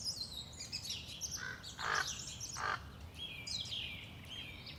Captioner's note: birds chirping